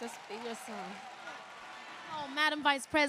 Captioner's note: applause